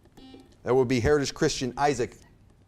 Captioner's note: buzzer beeps